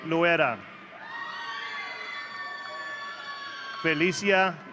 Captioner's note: audience cheering